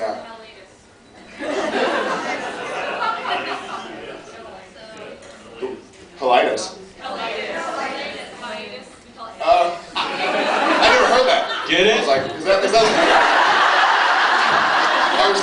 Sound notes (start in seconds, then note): 1.3 laughs; 9.9 laughs; 11.8 stomp, stomp; 12.2 laughs